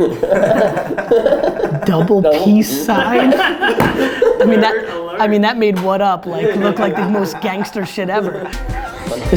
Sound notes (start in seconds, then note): 0.0 laughing; 2.8 laughter